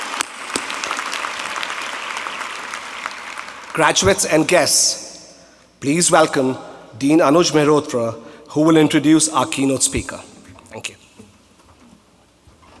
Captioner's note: applause